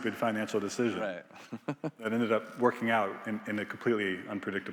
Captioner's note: laughs